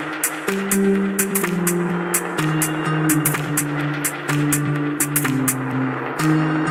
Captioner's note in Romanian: Aplauze